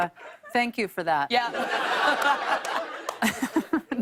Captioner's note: laughter